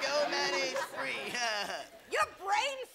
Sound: laughing

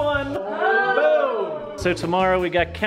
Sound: groans from distance

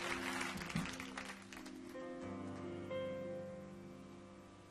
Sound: audience applauding

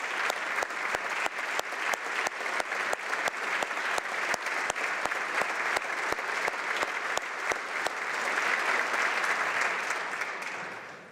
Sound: applause

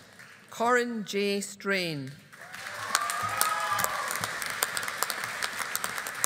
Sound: audience applauding

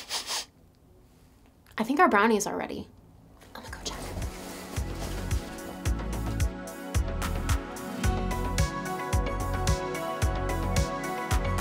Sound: sniff sniff sniff

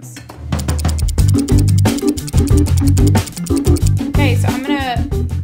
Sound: seconds ticking down

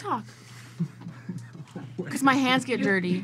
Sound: laughs

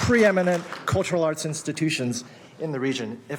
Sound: applause

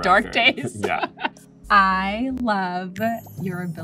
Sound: laughs

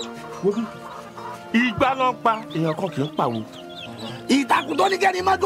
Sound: speaking foreign language

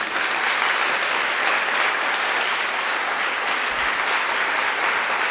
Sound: attendees applauding

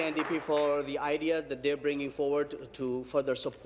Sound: applause

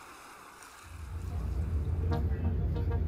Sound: airplane engines running; upbeat music playing

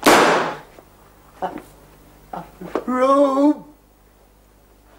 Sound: groans

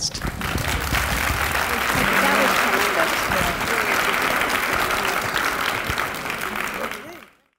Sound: audience Applause

